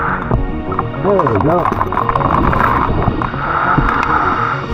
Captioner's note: oxygen tank hissing; oxygen bubbling in water; chain clanging; oxygen tank hissing